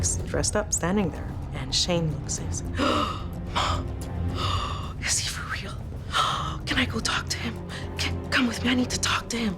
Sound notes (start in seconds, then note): 3.9 gasps